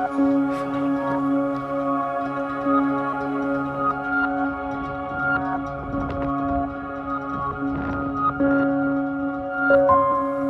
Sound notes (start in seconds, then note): 6.6 sound of wind